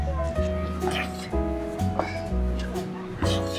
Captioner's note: 'heavy breathing' sounds